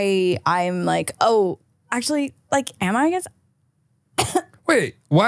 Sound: coughs

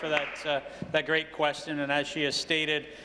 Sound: applause

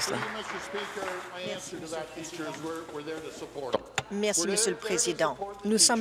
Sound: applause

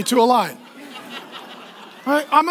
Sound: laughing

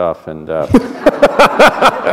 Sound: laughter

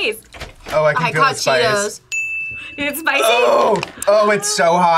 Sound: both laugh

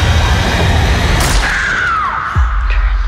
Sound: screaming

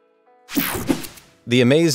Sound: digital buzzing

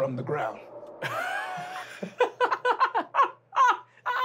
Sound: laughing

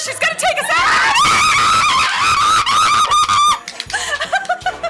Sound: screaming; laughing

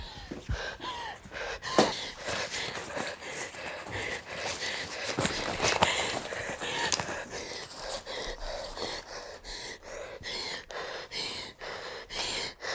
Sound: heavy Breathing

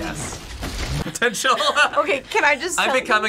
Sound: laughs

